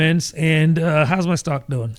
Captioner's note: uh